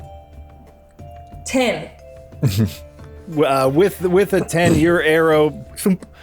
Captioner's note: thump